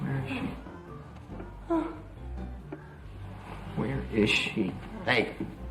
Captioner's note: Pat groans